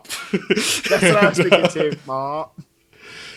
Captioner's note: laughs